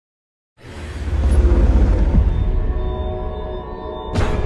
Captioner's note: logo whooshing